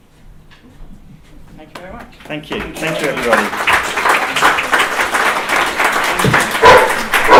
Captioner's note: applause